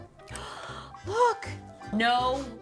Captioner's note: gasps